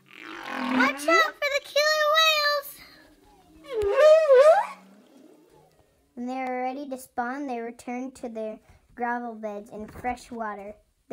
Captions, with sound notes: Watch out for the killer whales! [whale calls] When they are ready to spawn they return to their gravel beds in fresh water.